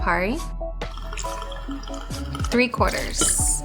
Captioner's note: liquid pouring